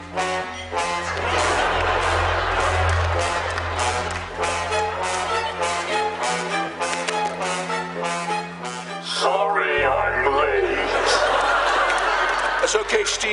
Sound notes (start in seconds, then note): 0.2 dramatic music playing; 9.4 distorted voice; 10.8 laughter